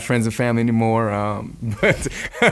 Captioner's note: laughing